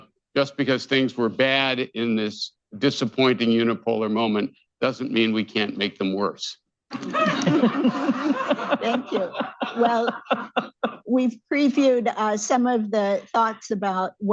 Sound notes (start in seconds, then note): 6.9 laughter